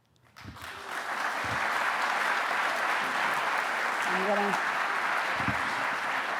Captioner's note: audience applauding